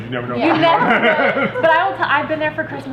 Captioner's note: laughing